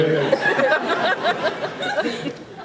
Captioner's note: laughs